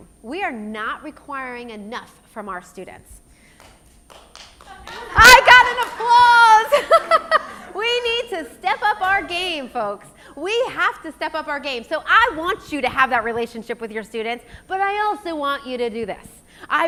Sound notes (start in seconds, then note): 4.0 soft applause; 4.6 laughs